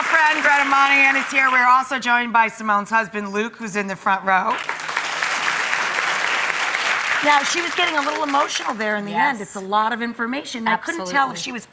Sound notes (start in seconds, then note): 4.5 audience clapping